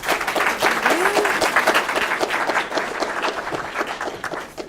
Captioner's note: clapping